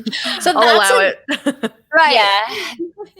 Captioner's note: laughs